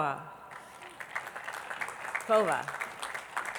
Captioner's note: attendees clapping